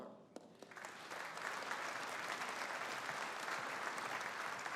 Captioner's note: audience applauding